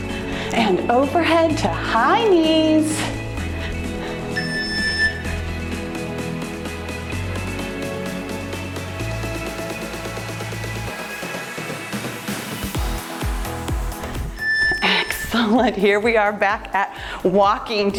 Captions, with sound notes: And overhead to high knees. (timer beeps) (cheerful music) (timer beeps) Excellent. Here we are back at walking.